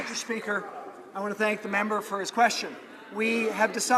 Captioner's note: applause